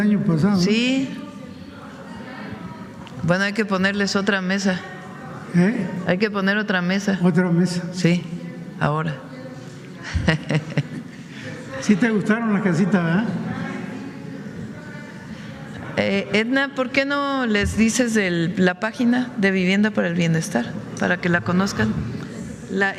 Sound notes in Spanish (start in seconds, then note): 10.0 risas